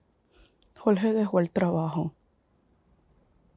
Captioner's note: Spanish